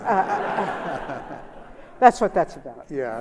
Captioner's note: laughter